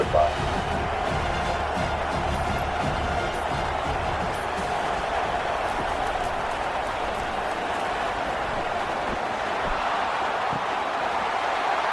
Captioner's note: crowd Noises